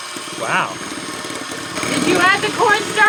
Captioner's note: high pitched whirring